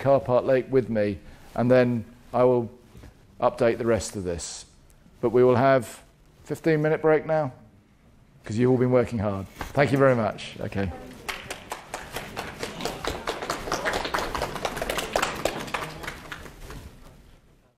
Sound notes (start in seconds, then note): 11.2 claps